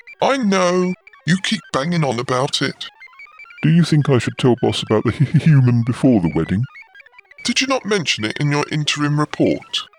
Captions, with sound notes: I know – you keep banging on about it Do you think I should tell Boss about the human [laughs] before the wedding? Did you not mention it in your interim report?